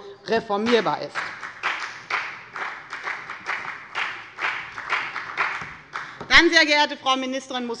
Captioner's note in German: Beifall bei der FPD sowie bei Abgeordneten der CDU